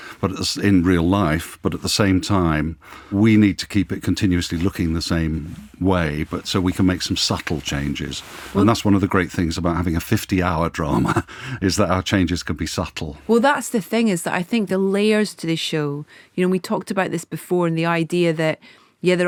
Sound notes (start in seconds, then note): 10.8 laughs